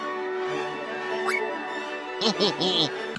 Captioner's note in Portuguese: zip